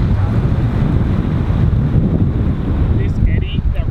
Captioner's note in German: Windböe